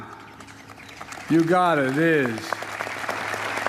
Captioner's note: applause